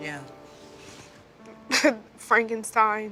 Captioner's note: chuckles